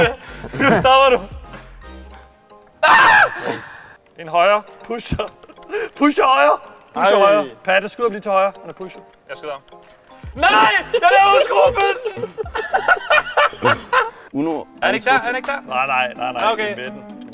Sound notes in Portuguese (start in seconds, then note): 2.7 Gritando; 12.0 Risada